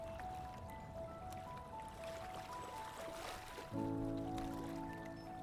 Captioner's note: water flowing